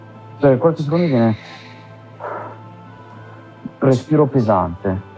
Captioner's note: inhales and exhales